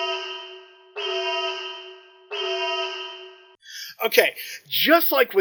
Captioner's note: alarm